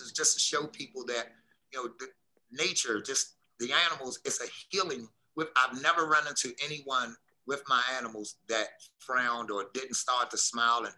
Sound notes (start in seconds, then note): none